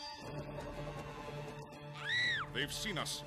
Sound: scream

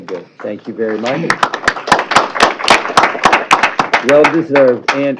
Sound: applause

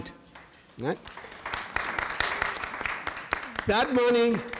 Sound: audience applauding

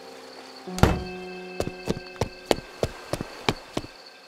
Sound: door opens; footsteps

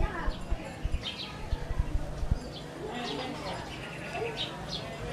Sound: birds chirping

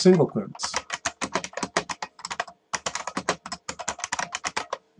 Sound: keyboard clicks

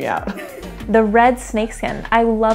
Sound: laughs

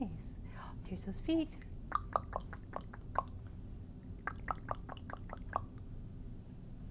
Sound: tounge smacking

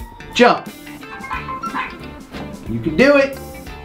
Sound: barks

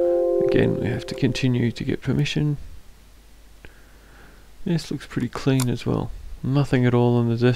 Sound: click

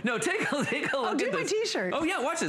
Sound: laughter

